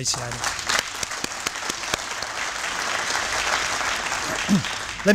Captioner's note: applause